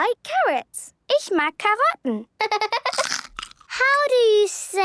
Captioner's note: laughter